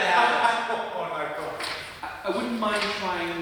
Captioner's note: laughing